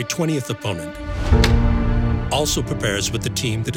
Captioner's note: lights click on